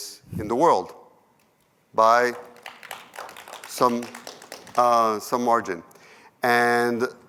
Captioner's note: applause